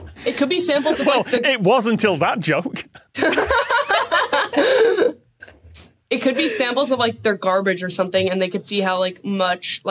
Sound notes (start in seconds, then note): 3.1 laugh